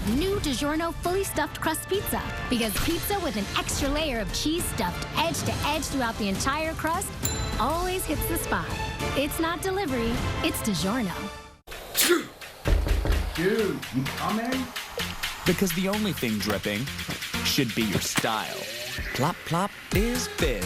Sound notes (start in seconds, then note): 11.9 coughing/sneezing; 12.6 door knocking